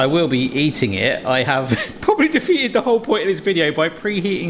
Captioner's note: chuckles